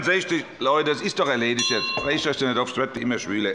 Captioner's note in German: Unruhe - Glockenzeichen des Präsidenten